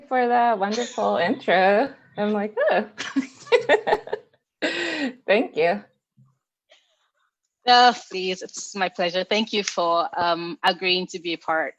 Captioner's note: laughs